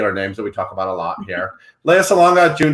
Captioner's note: laughs